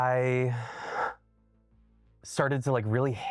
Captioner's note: sighs